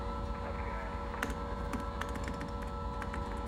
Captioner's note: typing